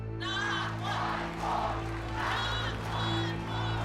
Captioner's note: chanting